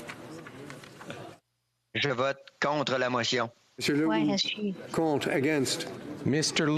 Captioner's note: speaking FRENCH